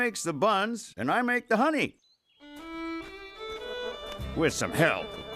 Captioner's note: buzzing